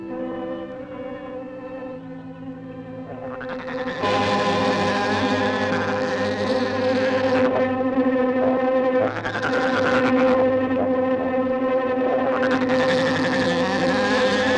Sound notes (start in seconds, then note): 0.6 tense music; 4.0 dramatic music; 4.3 spider chattering